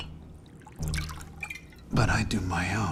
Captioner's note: cork pops; liquid sloshes